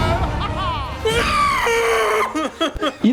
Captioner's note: death Squeal